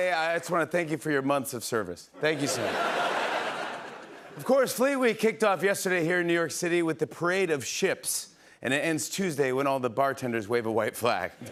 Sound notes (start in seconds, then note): 2.3 laughter